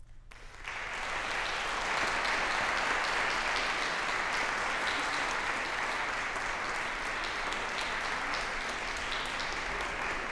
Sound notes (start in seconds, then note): 0.0 applause